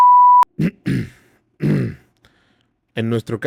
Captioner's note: throat cleaning noises